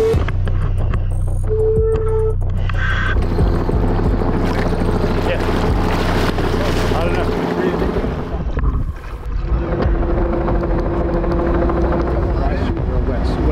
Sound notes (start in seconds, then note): 4.6 crew murmurs